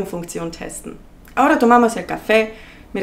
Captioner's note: Spanish